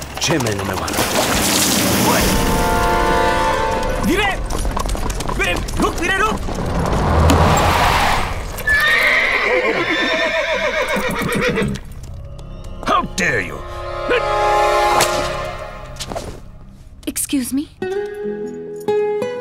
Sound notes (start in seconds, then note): 8.6 horse neighing